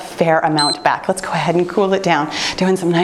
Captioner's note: timer beeps